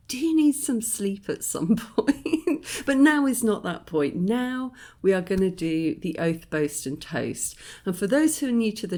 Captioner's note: laughing